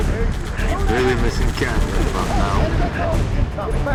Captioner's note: radio